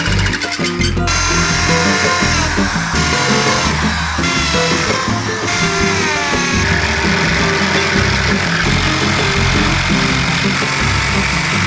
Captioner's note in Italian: Applauso